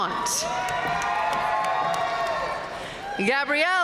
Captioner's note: audience cheering and applauding